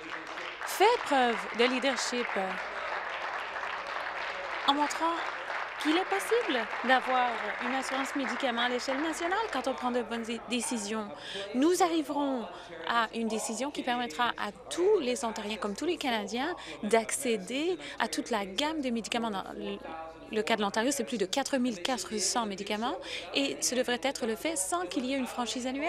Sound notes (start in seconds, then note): 9.9 applause